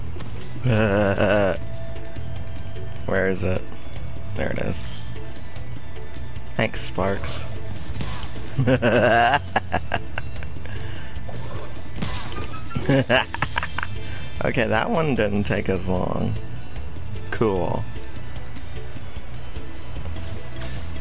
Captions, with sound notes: (laughing) Where is it? There it is Thanks, Sparx (laughing) Okay, that one didn't take as long ...cool